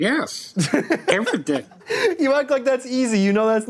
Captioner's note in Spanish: Risas